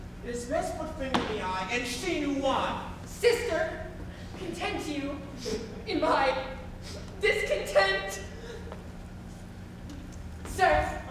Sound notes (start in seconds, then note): 6.7 sniffles